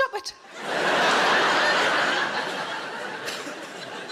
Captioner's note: audience laughing